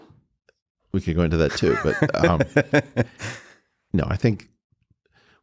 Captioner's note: Lex laughing